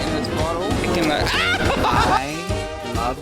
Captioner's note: laughs